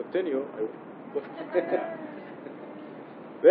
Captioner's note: Gülüşmeler; bebek gürültüsü